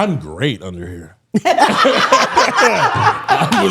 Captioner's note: all laughing